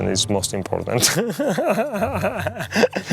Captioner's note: laughing